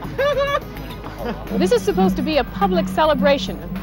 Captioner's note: chuckling